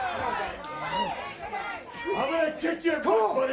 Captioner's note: crowd chatter